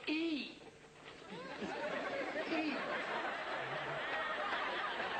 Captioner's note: audience Laughter